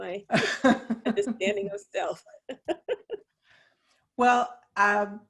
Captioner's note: all laugh